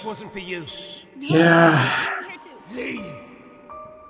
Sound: sighing

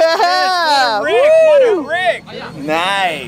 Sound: cameraman cheers

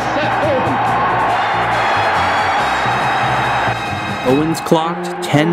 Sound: crowd cheering

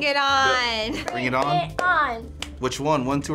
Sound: clapping

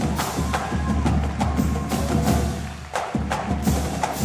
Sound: people cheering

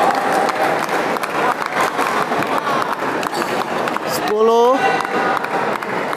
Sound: applause

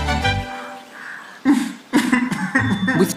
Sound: cries

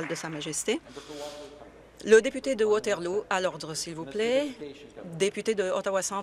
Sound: applause

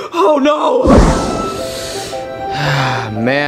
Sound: upbeat music; Mario inhaling and sighing

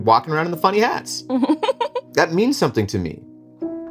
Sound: laughs

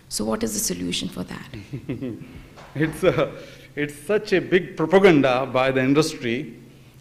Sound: laughs

